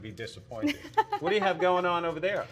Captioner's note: laughs